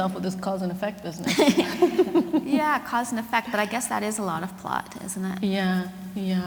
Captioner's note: laughter